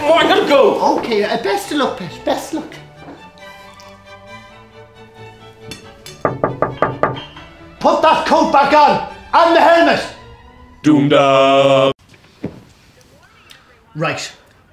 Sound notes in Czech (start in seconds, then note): 6.2 klepe na okno